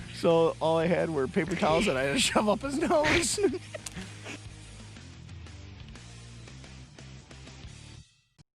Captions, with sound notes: So all I had were paper towels that I had to shovel up his nose. (laughing) (upbeat music)